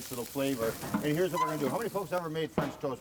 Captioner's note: grill lid squeaks